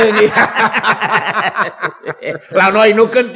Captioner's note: both laugh heartily